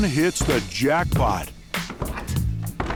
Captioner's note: foot steps